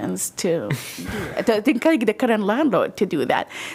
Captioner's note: laughter